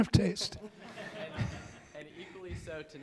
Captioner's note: audience laughing